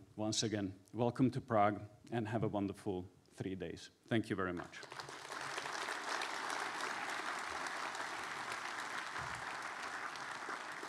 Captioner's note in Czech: Potlesk